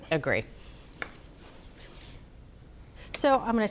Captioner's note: knife slicing